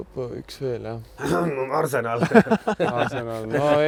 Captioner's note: cough